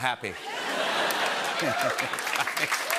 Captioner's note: laughter